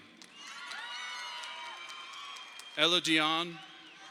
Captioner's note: audience applauding